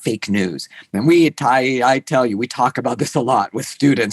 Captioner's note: laughs